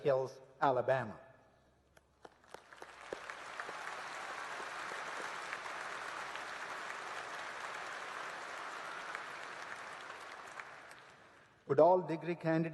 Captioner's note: applause